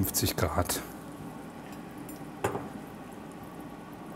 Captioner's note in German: Leises Rauschen, Knistern